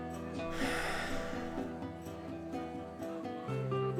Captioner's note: sighing